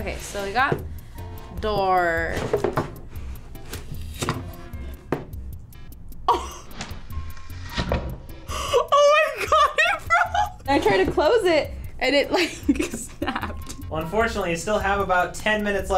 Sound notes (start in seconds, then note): 5.7 laughs